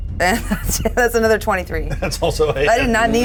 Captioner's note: chuckles